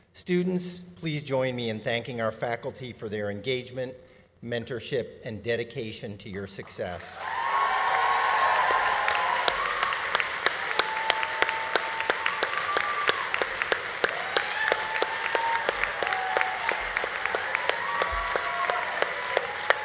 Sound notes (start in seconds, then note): 7.1 audience applauding; 7.1 audience cheering; 14.6 audience applause continues; 14.6 audience cheering continues